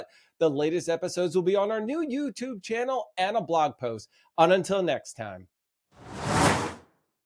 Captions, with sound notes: The latest episodes will be on our new YouTube channel and a blog post on until next time. (air whooshing)